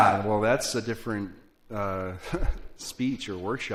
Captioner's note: laugh